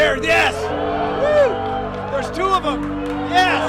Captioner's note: crowd cheering